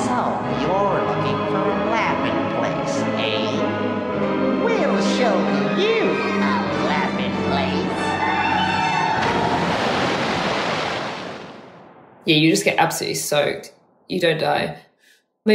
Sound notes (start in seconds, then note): 9.2 water splashing